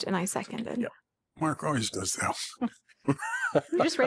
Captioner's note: laughter